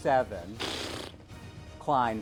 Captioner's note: fart